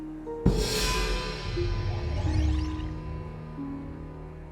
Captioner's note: gong crashes